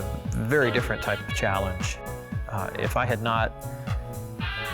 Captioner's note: whistle blowing; jaunty music